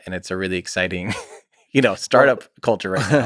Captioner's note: Tim chuckles